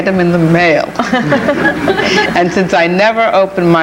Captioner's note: chuckling